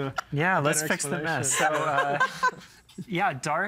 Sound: laughing

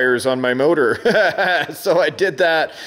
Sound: laughing

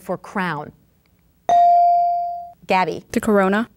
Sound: ding

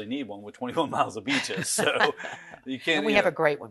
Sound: laughs loud

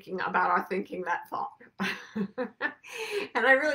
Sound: laughs

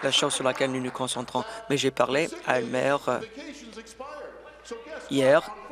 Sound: applause

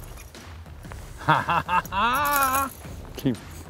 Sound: laughs

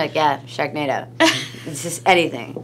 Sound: laughs

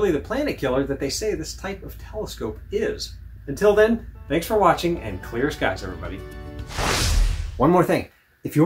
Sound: woosh

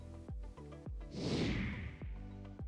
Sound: whooshing

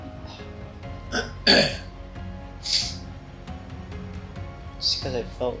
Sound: clears throat

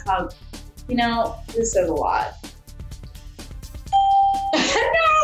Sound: ding; laughs

